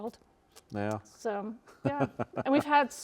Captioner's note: chuckles